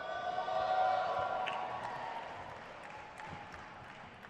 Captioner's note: crowd cheers